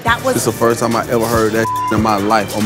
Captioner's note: beep